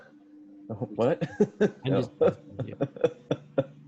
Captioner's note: laughing